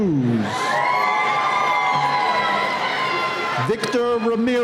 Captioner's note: cheering